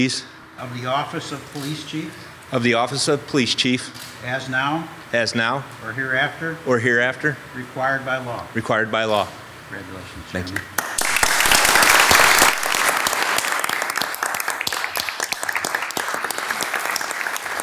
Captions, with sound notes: - Of the Office of Police Chief. - Of the Office of Police Chief. - As now. - As now. - Or hereafter. - Or hereafter. - Required by law. - Required by law. - Congratulations. - Thank you. (crowd loudly applauding)